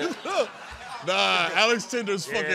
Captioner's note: laughter